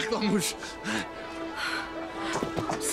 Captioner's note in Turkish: Nefes sesi